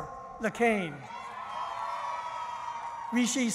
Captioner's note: cheering